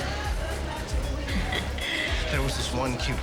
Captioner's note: chuckles